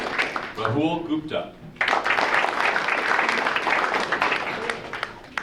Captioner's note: audience applauding